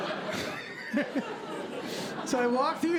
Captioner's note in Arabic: ضحك; يضحك